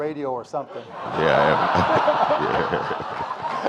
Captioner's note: audience laughing